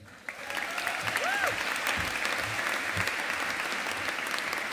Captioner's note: audience applauding